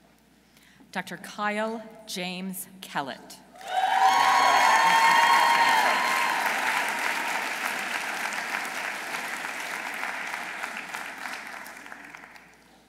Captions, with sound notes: Dr. Kyle James Kellett. -(audience cheering) -(audience applauding)